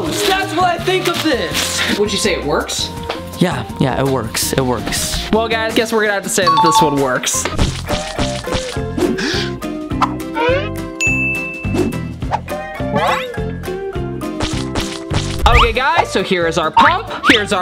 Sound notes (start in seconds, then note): 6.4 upbeat music begins; 9.0 inhales; 11.0 ding